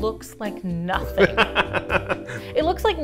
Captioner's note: laughing